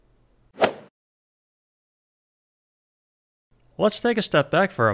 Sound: golf swing sound effect

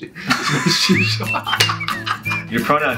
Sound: laughing

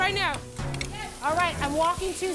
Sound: sizzling

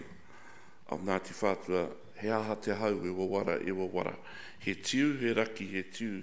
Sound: speaks in foreign language

